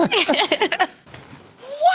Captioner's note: laughing